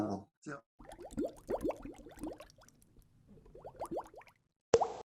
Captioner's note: bubbles popping